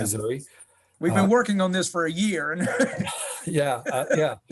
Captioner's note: laughs